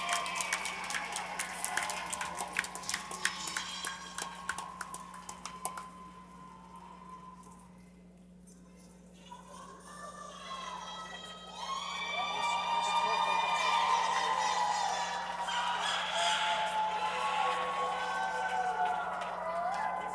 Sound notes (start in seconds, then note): 3.5 applause